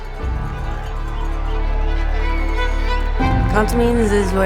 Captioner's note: crowd cheers